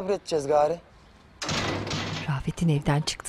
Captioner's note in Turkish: Kapı sesi